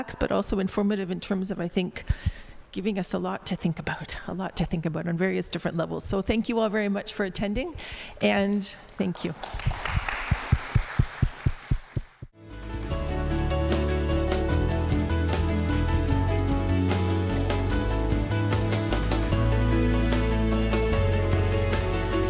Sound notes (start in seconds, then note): 9.1 applause